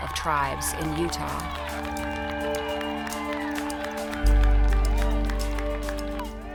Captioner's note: group clapping and cheering